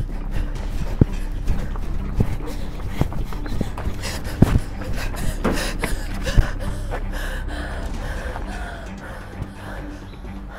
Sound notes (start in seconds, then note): 2.0 woman panting; 7.5 suspenseful music